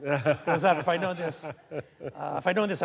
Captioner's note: laughing